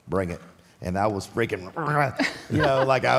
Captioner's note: Michelle laughs